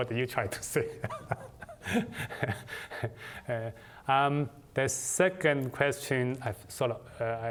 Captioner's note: laughter